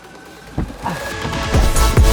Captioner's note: door clicks; upbeat music